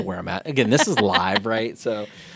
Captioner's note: laughing